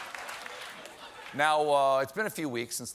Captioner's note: applause; laughter